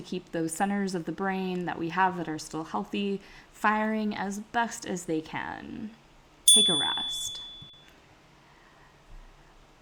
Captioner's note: chime